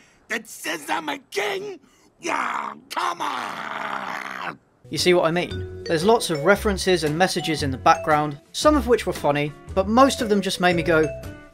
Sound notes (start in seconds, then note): 2.2 frustrated grunts